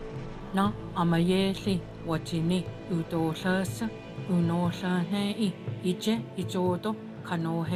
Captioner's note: speaking Cherokee